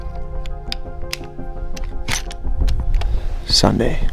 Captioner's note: gun loading